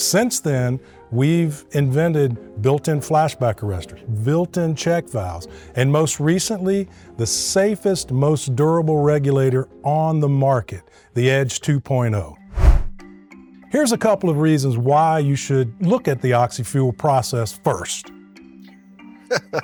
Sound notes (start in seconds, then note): 12.5 text whooshing